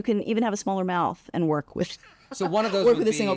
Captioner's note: laughs